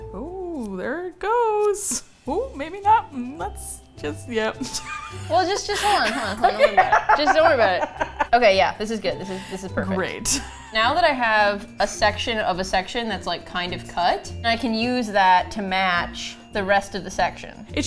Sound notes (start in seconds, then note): 4.6 laughs; 10.4 unenthusiastically